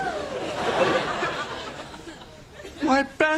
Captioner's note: laughing